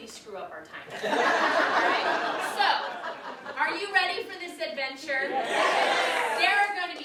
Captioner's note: audience laughs